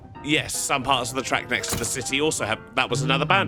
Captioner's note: skeleton casualty sound